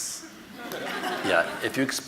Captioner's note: audience laughing